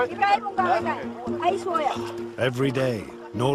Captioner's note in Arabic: بالثرثرة بلغة أجنبية